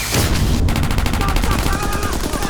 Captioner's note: rocket fire; screams